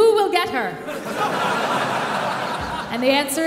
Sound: audience laughing

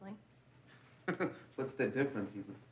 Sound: laughs

